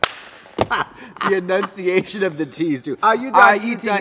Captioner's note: laughs